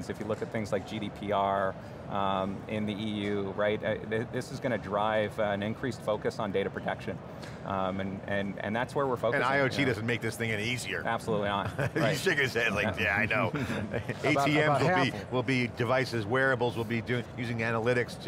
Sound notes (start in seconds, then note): 11.6 laughs